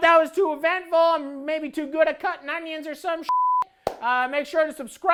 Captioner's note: beep